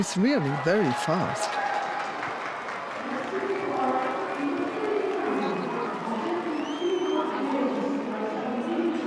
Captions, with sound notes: She's really very fast. (crowd cheering and clapping)